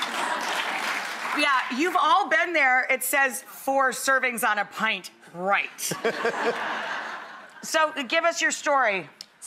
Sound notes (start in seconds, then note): 0.0 applause; 5.9 laughing